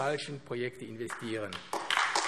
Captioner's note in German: Beifall AfD